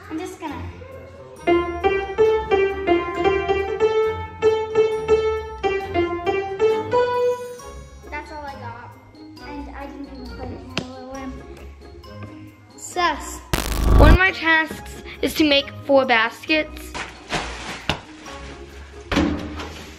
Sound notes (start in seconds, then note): 1.5 continues playing piano; 13.5 electric zapping